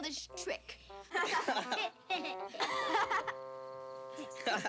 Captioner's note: kids laughing